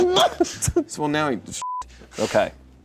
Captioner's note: imitates stutters; beep